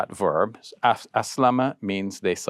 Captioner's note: speaking foreign language